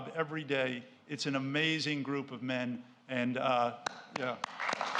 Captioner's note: applauds